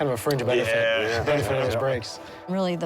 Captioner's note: chuckles